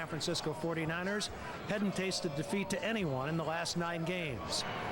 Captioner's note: crowd noise